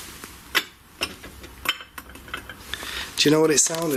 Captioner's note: glass clinks